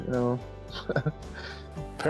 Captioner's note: laughs